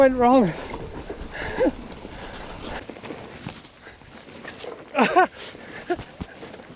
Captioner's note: laughs